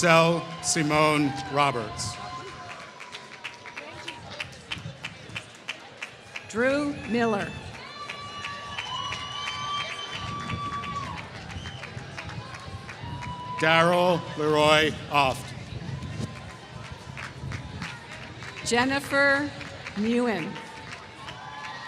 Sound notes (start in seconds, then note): 8.3 applause